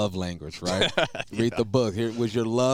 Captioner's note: laughing